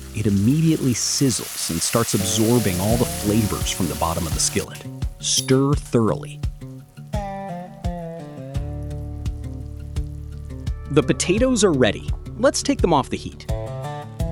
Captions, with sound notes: It immediately sizzles and starts absorbing all the flavors from the bottom of the skillet. Stir thoroughly. [sizzling] The potatoes are ready. Let's take them off the heat.